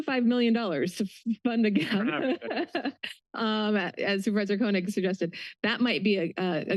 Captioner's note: laughs